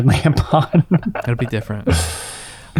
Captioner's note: laughing